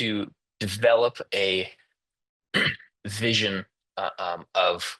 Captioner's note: interpreter clears throat